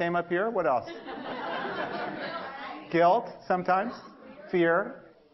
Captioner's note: 笑聲; laugh